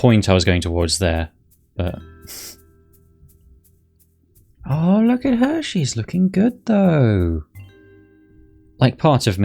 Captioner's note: nose exhale